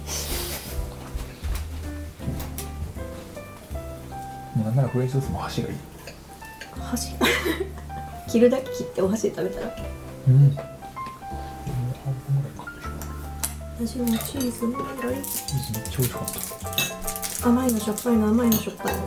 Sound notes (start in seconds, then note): 7.2 laughs; 10.8 laughs